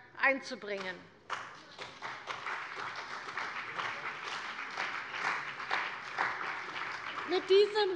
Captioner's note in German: Beifall bei der CDU und dem BÜNDNIS 90/DIE GRÜNEN